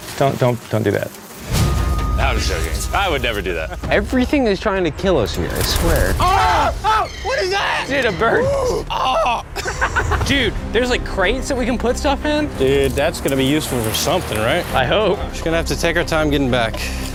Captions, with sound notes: Don't do that. [laughs] I would never do that. Everything is trying to kill us here, I swear. [screams] What is that? Dude, a bird! [mock screaming] [laughs] Dude, there's like crates that we can put stuff in. Dude, that's gotta be useful for something, right? I hope. Just gonna have to take our time getting back.